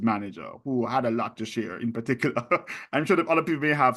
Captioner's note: chuckles